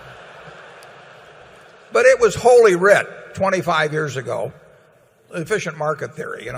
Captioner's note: laughter